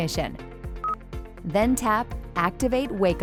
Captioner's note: screen beeps